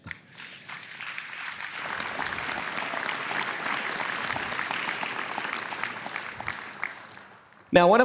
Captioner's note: applause